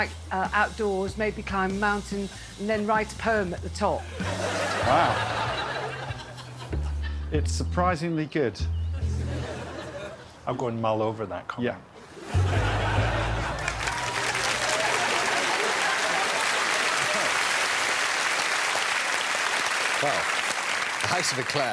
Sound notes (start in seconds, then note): 15.9 laughing and applause